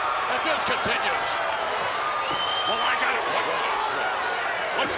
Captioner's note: applause